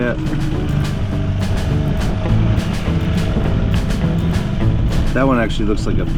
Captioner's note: boat engine rumbling; relaxed country music